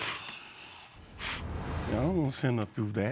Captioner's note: sniffles